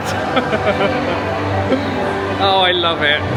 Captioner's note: chuckles